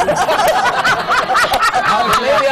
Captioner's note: laughter